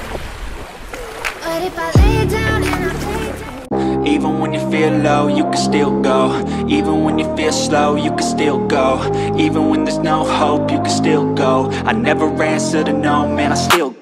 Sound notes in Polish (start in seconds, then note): 0.9 Aplauz